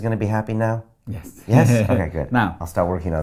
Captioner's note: laughs